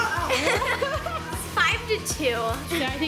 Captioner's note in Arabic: يضحك